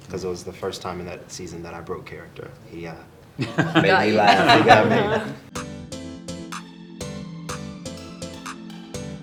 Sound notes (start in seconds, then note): 3.4 all chuckle; 5.6 upbeat music